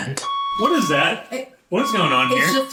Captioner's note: alarm blaring